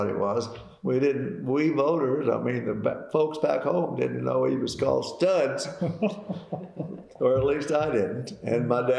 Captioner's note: laughter